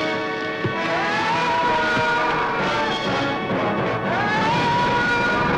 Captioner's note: Vornoff screaming; suspenseful music